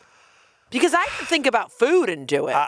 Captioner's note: sighing